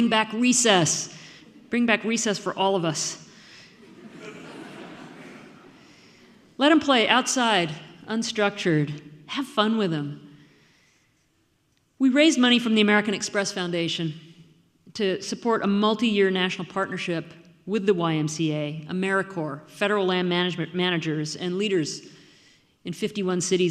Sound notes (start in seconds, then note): 3.8 audience laughing